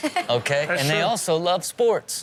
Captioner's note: audience laughs